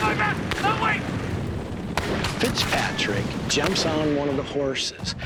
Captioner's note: yelling, gunfire